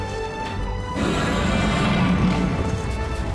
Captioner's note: roaring